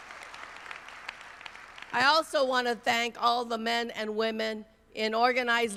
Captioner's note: applause